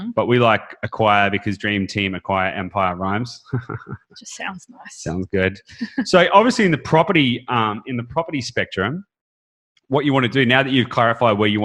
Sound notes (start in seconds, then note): 2.5 chuckles